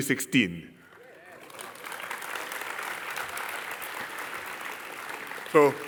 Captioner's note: applause